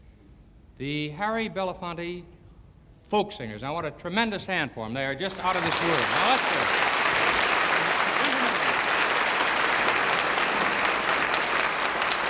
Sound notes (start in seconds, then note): 7.5 audience applause